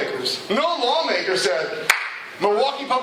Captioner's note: clap